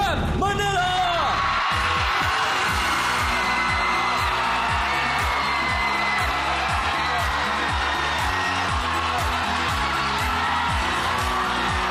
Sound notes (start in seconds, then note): 0.6 upbeat music playing; 1.0 audience cheering